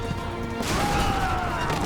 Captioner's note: crashing